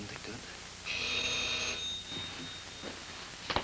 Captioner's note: doorbell rings